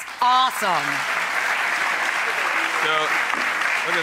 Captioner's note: audience applauds